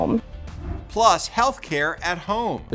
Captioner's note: graphics whooshing